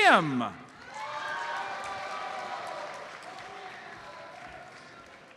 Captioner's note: audience cheers and applauds